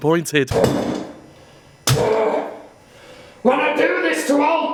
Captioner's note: grunts